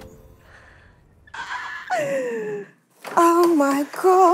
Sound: squealing

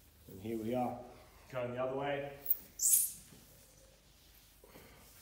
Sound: floor squeaks

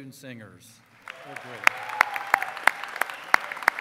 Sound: cheering

